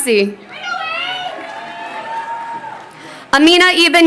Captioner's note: audience member chattering